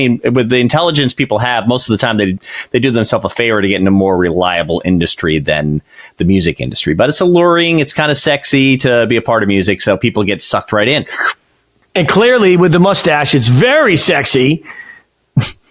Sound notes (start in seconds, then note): 11.0 slurps